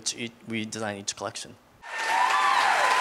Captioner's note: applause